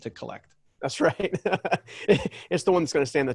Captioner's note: laughs